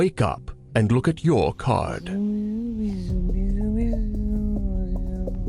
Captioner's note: humming